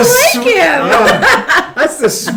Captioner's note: laughs